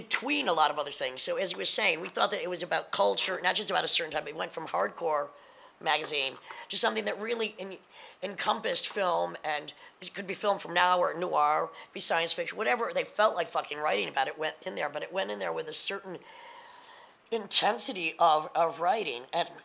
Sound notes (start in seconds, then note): none